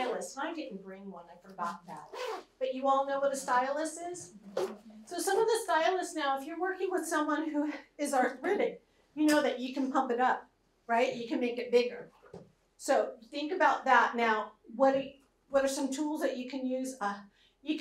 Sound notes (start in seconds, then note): none